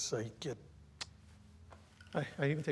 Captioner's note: clicking